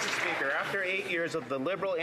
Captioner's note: some Applause